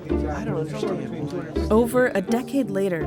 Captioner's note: room chatter